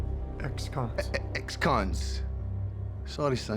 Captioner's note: scottish accent